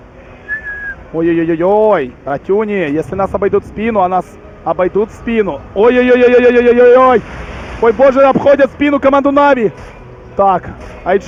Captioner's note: whistles